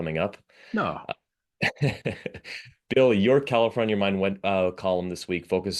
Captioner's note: laugh